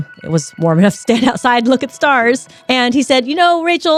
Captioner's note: laughing